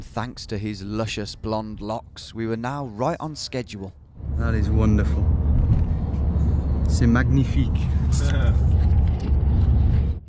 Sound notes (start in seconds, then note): 6.5 speaking in a foreign language; 8.1 laughing